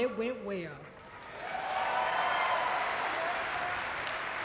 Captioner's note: audience cheering